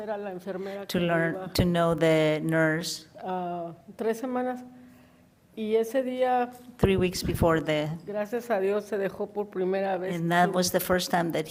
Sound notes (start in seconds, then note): 0.2 woman speaks in foreign language; 4.4 woman speaks in foreign language